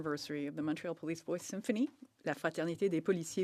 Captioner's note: speaking French